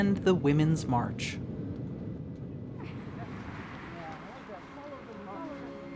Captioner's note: jet noise; suspenseful music